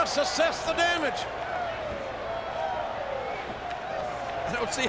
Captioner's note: crowd clamoring